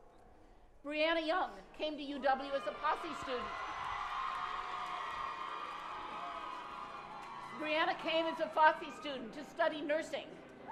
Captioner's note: cheering